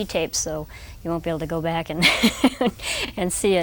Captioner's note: nervously laughing